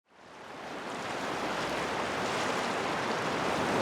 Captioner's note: water rushing